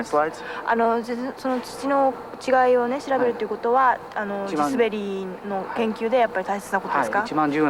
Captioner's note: speaking japanese